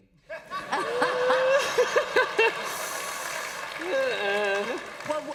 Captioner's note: laughter